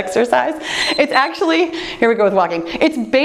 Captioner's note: timer beeps